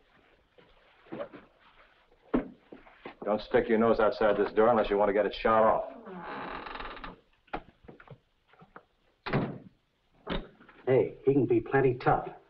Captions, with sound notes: Don't stick your nose outside this door unless you want to get it shot off. (door creaks) (door bangs shut) - Hey, he can be plenty tough. - Yeah?